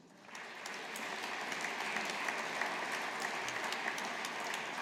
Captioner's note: audience applauding